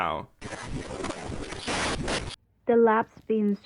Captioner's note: radio static